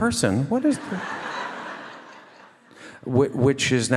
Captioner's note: audience laugh